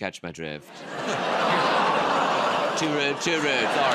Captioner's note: audience gasps